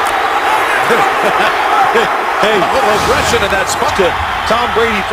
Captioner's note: both chuckling